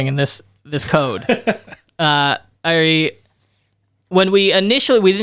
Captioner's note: laughs